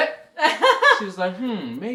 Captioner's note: laughs